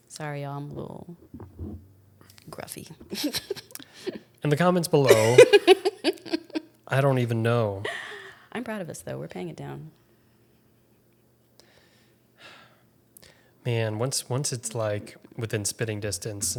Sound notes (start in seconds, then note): 5.0 laughs; 5.0 laughing; 12.7 sighs